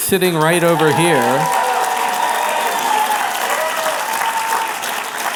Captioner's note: applause